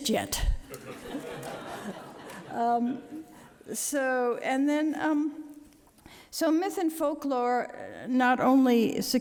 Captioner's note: laughter